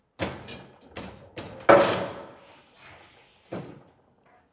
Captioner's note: item thudding